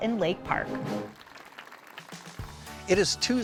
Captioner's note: audience applauding